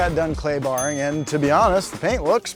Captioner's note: ding